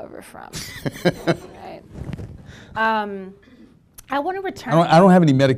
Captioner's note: laughing